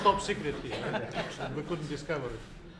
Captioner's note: laughter